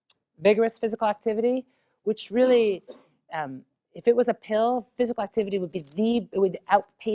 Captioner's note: cough